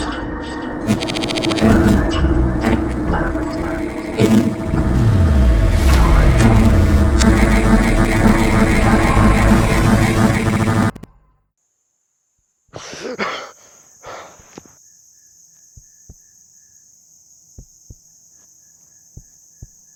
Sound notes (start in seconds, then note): 12.6 gasping, breathing heavily